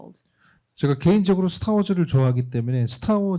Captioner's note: speaking korean